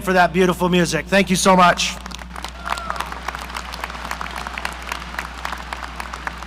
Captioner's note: audience applauding